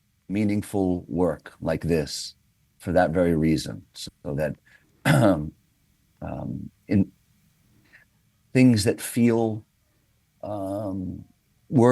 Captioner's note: clears throat